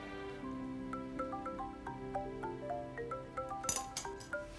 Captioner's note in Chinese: 來電鈴聲